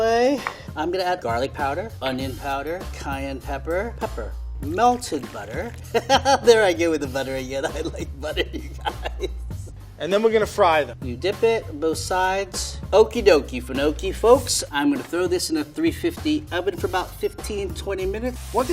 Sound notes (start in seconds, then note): 5.7 chuckles; 7.5 laughs